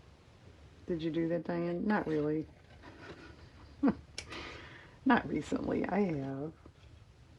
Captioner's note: laughs